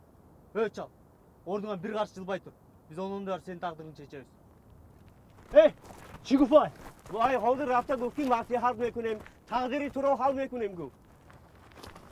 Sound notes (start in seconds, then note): 6.5 in Tajik